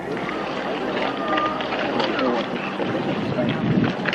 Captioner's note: people chattering